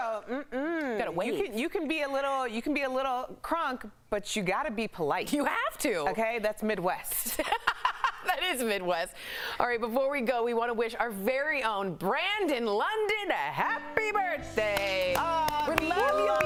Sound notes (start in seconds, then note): 7.2 laughter